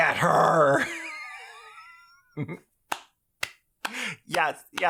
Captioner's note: wheezing